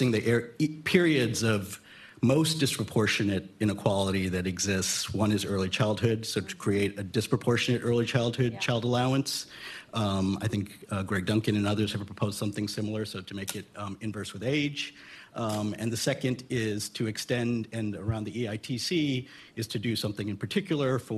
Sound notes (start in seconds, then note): none